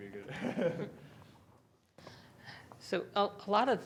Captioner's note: laughing